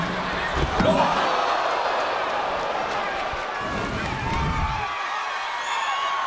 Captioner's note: audience groans; body thuds; audience cheering